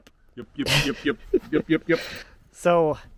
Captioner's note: chuckling